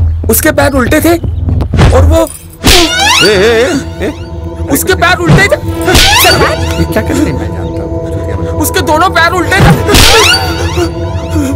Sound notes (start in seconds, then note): 2.9 Slaps; 6.0 Slaps